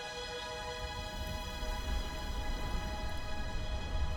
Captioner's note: wind blowing